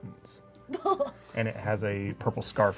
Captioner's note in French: rire surpris